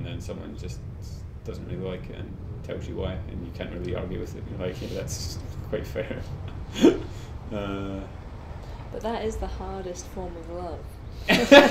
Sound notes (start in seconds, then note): 6.9 laughs